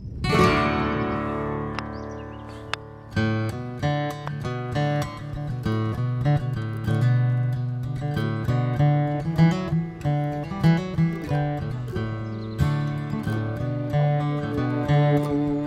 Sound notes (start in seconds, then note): 5.1 happy Country Music; 5.1 soft background chatter